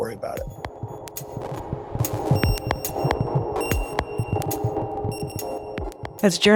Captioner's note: gentle music; heart monitor beeping